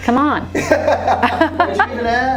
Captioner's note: laughs